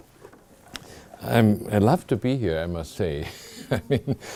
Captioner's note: chuckling